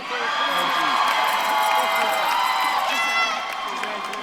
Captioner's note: audience claps and cheers